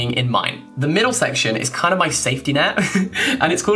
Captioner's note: chuckling